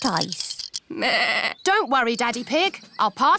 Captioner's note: bleats